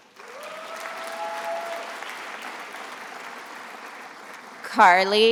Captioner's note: attendees applauding and cheering